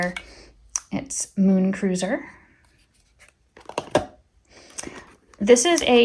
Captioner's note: item thudding